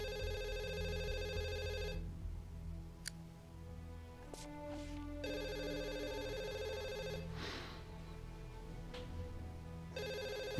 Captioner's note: phone rings; scottish accent